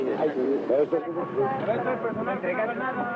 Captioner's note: murmurs